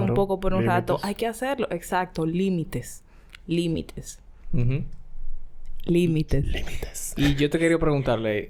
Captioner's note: whispers